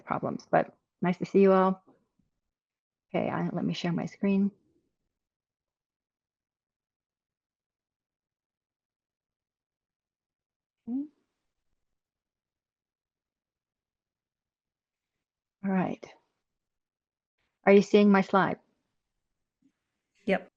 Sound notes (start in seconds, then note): 6.5 pause